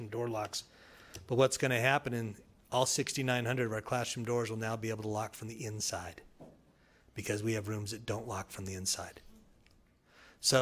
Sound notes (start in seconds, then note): none